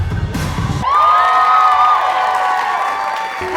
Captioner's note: cheering